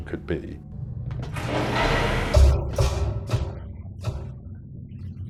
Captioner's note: machinery clanking